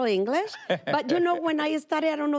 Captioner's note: laughs